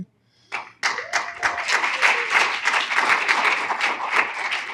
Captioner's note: applause